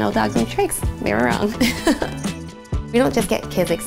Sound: laughing

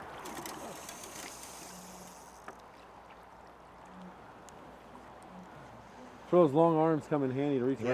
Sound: splashing footsteps; reel spinning

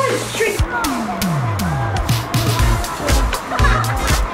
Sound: shuddering

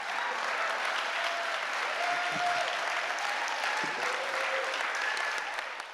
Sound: cheers

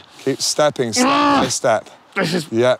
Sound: grunts

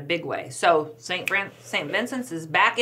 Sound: fingers snap

